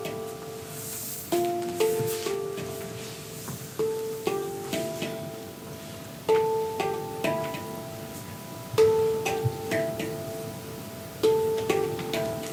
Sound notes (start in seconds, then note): 0.2 gentle string music continues; 4.2 dancer's body scrapes; 11.0 gentle string music continues